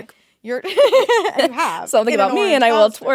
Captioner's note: both laughing